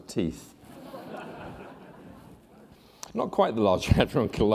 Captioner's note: laughter